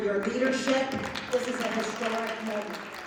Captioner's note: applause